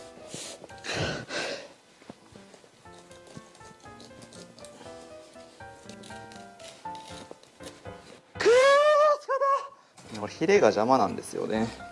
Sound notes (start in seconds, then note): 0.8 out of breath